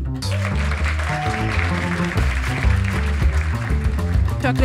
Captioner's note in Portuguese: aplausos